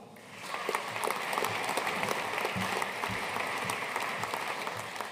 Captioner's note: audience applauding